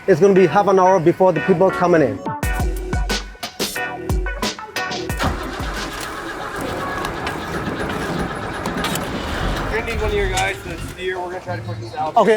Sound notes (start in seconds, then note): 1.4 upbeat music; 5.1 van engine revving